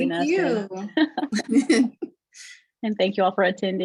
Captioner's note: laughter